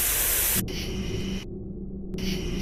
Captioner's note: buzzing sound